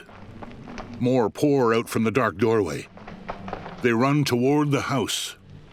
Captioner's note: hurried footfalls